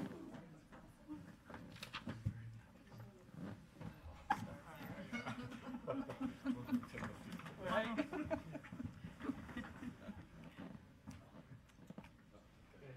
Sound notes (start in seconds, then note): 4.8 laughing; 6.8 people chattering faintly